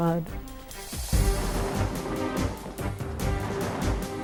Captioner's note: thunder rumbles